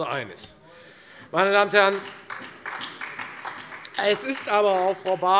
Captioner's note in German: Beifall Freie Demokraten und SPD